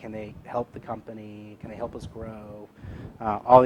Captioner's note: none